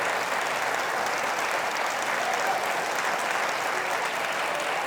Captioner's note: audience cheering